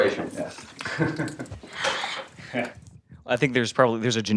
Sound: laugh

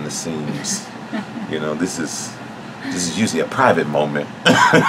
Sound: laughs

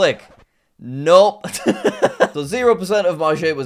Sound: laughs

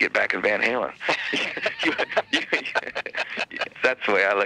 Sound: both laughing

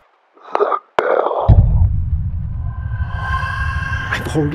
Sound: ghostly child scream

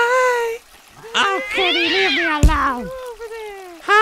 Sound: cat shrieks

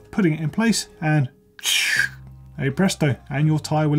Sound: imitates air whooshing

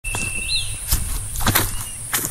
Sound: footsteps

